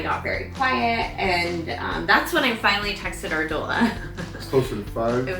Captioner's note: laughs